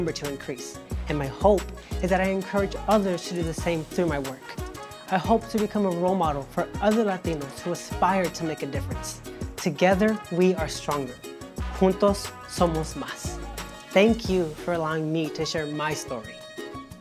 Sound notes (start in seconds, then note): 11.8 speaks in Spanish